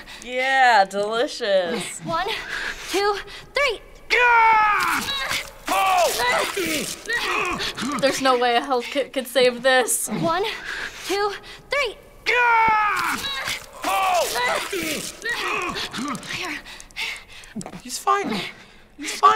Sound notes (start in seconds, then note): 3.9 Joel screams in pain; 4.9 Ellie grunts in exertion; 6.4 Joel grunts and gasps; 12.0 Joel screams in pain; 13.0 Ellie grunts in exertion; 15.0 Joel grunts and gasps